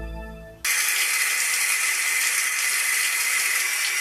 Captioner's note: water rushing